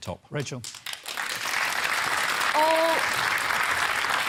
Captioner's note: applause